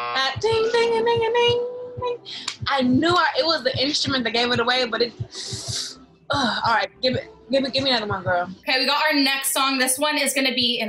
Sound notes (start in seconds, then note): 5.3 sucks in breath